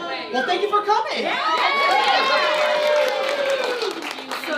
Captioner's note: cheering